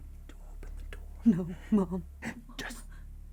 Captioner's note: Sue whimpering